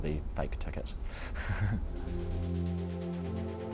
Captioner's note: chuckling; ambient music